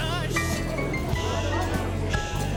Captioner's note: patrons talking loudly